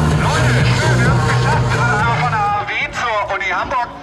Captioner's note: loudspeaker announcement